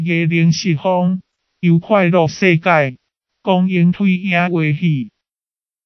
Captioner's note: Amoy dialect; Amoy dialect